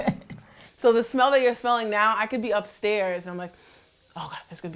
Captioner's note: sniffs